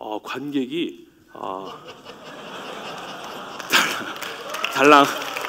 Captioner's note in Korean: 박수 소리